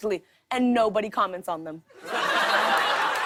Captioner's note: laughter